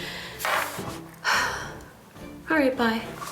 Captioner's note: loud breathing